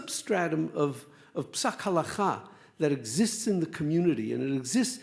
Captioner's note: speaks Hebrew